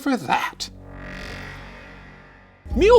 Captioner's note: dramatic whooshing